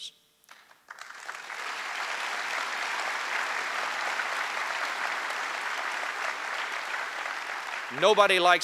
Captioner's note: applause